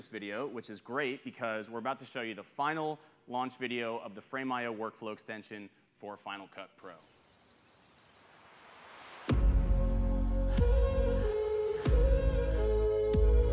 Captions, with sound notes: this video which is great because we're about to show you the final launch video of the Frame.io Workflow Extension for Final Cut Pro. (birds chirping) (heavy bass music)